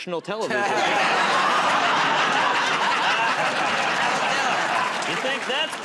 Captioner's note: laughter